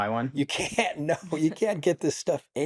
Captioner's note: laughs